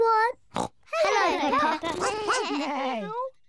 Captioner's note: all make animal noises